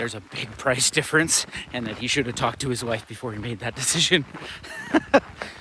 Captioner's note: nervous chuckle